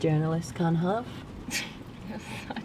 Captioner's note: laughs